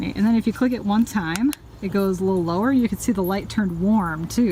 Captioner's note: click